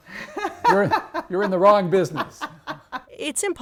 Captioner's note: laughs